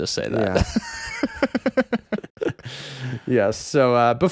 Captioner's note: laughing